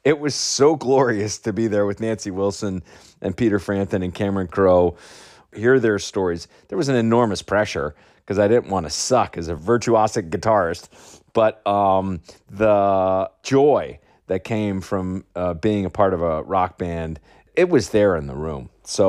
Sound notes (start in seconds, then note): none